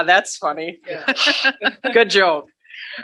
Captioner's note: laughing